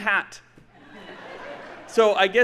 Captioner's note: audience laughing